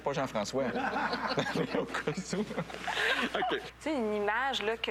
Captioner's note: rires